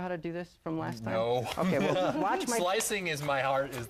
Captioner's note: laughs